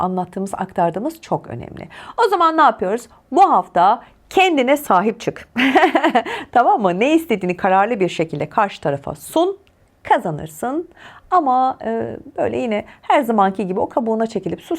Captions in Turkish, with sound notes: anlattığımız, aktardığımız çok önemli. O zaman ne yapıyoruz? Bu hafta kendine sahip çık. [kahkaha] Tamam mı? Ne istediğini kararlı bir şekilde karşı tarafa sun kazanırsın. Ama böyle yine her zamanki gibi o kabuğuna çekilip